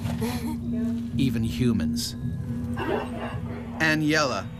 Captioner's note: voiceover